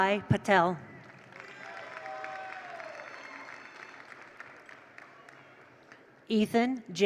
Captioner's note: attendees cheer; attendees applaud